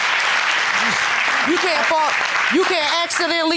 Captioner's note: audience applauding